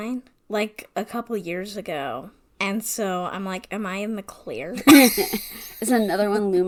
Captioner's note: laughs